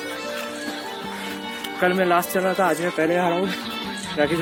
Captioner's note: laugh